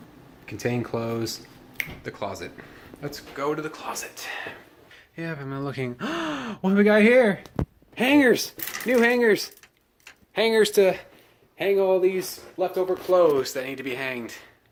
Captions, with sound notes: "Contain clothes." The closet! Let's go to the closet. (gasps mockingly) What do we got here? Hangers! New hangers! Hangers to hang all of these leftover clothes that need to be hanged.